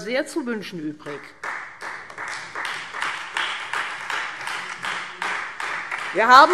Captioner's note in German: Beifall